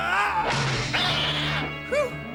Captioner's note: cat yowls